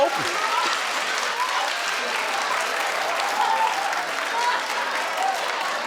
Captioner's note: audience laughing; audience applauding